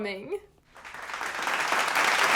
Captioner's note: applause